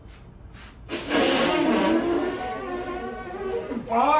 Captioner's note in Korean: 방구소리